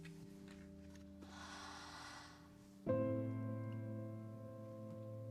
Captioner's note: Cassie exhaling